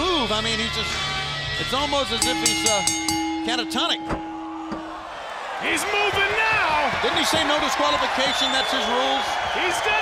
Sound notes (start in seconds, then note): 2.1 bell ringing; 4.2 crowd cheering